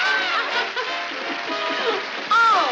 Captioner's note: laughing